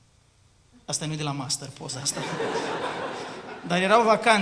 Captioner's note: laughter